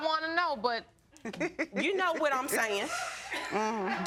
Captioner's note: chuckles